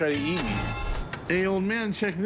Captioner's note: cash register dings